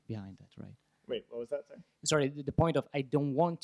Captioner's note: voiceover